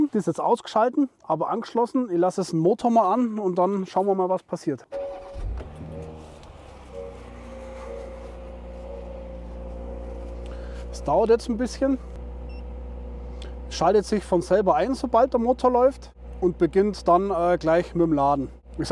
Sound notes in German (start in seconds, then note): 5.1 Motor startet